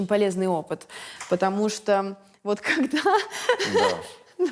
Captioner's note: laughs